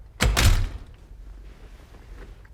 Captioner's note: door closes